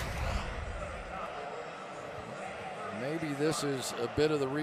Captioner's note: pa announcement